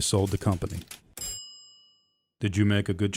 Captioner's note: cash register rings